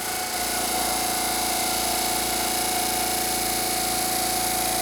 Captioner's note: CNC machine rumbling